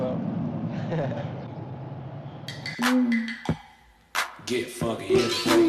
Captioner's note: laughs